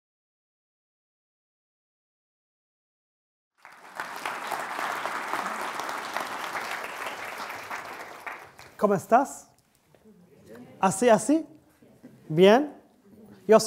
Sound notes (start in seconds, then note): 3.6 audience applauding; 9.0 speaking in Spanish